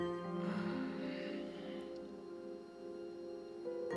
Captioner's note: sighs